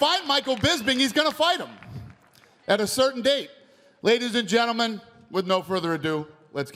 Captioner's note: applause